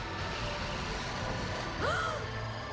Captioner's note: gasp; zaps